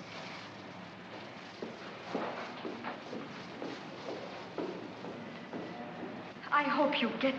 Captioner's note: Mac's footsteps